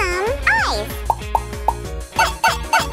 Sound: bubbles popping

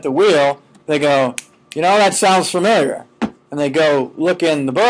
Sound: snapping

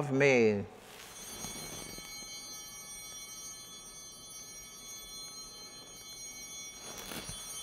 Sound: bell ringing

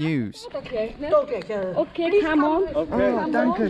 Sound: speaking foreign language

